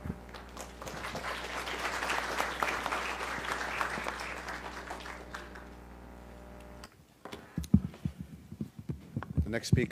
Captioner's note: applause